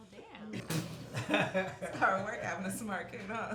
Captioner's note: family laughing